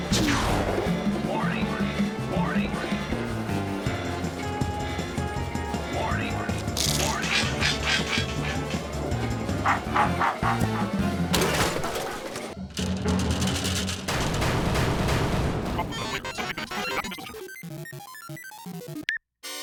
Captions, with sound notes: WARNING, WARNING. WARNING, WARNING. (robotic barking) (electronic bleeps and bloops)